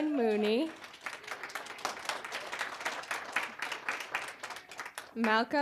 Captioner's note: applause